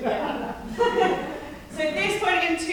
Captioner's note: all laughing